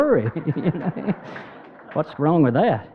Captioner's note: laughing